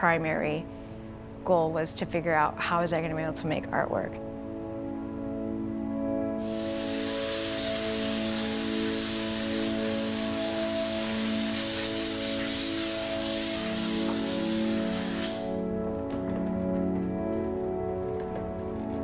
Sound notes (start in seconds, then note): 9.3 hissing